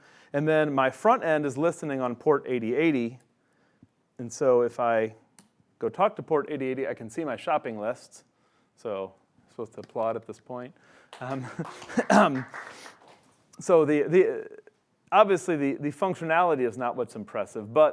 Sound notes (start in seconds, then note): 11.1 clapping